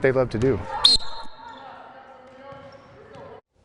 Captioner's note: whistle blows